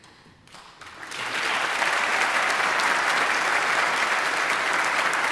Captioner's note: audience applauding